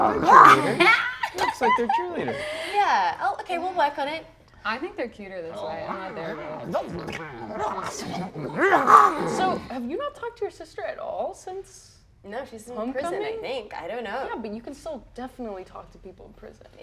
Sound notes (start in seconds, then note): 8.4 snarls